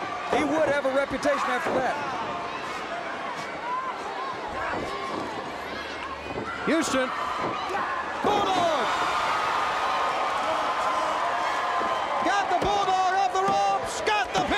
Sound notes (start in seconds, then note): 1.3 crowd chatter; 5.9 crowd cheering